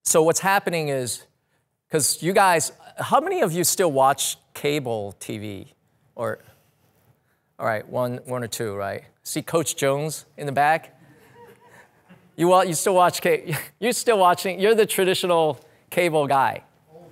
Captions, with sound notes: So what's happening is 'cause you guys, how many of you still watch cable TV or? All right, one or two, right. See coach Jones in the back. (audience laugh) You still watch, you still watching, you're the traditional cable guy.